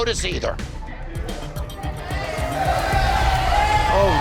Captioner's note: crowd chatter